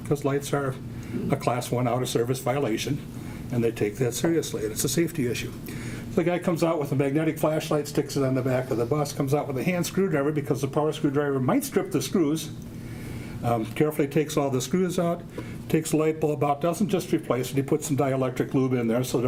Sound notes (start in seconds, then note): none